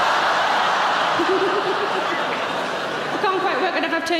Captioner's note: audience laughing; Sarah laughs